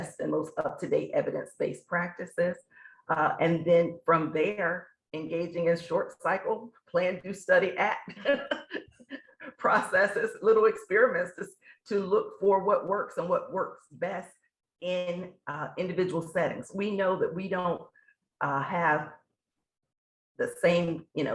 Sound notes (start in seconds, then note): 8.1 laughs